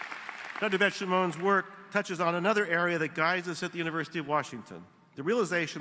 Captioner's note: applause